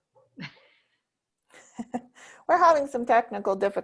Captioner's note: women chuckling